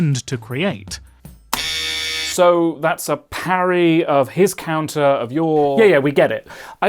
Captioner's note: buzzer